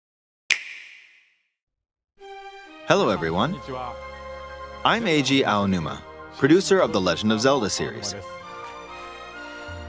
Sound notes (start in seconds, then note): 2.3 peaceful orchestral music; 2.8 speaking Japanese